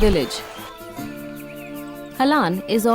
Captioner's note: birds chirpping; soft gentle music